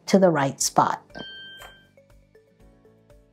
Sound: bell dings

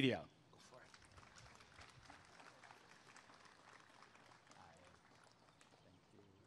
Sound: applause and cheering

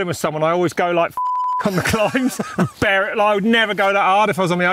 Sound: beep

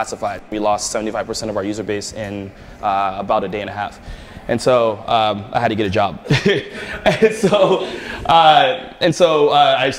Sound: laughter

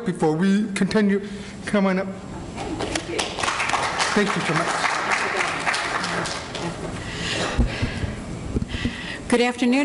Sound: applause

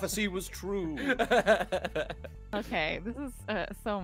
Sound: laughing

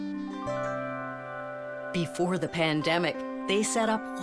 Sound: none

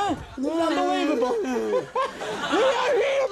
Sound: Andy moaning

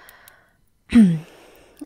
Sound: clearing her throat

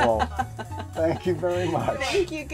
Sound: laughs

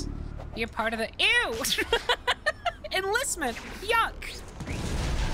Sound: laughing; explosion

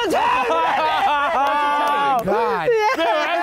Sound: group laughing

